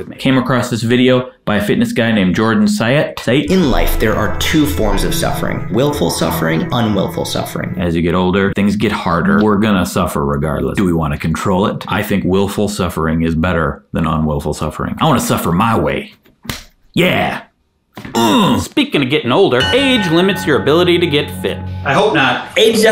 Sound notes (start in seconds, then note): 3.4 chill music; 18.1 grunts; 19.5 chime sounding; 22.2 light music